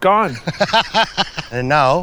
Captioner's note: laughing